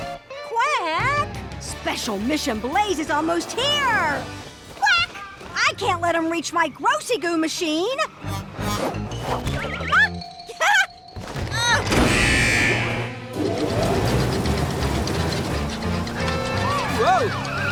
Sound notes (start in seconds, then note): 9.7 chuckles; 12.0 grunts, alarm buzzes